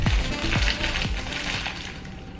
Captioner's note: plastic crinkling